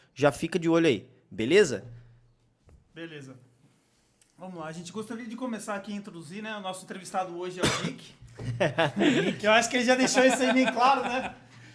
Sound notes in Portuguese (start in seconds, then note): 7.6 tosse ao fundo; 8.3 Risos